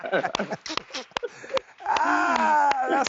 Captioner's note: clapping